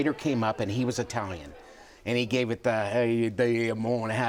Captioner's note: in Italian accent